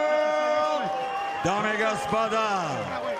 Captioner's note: speaking Ukrainian